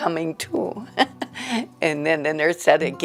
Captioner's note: laughter